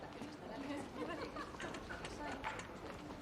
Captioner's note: wanita tertawa